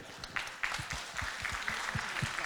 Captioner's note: congregation clapping